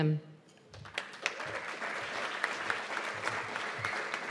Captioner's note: applause